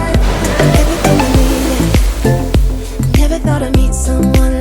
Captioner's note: water gushing